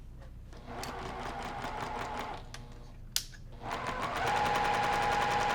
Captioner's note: sewing machine humming